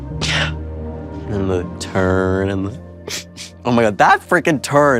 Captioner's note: sniffles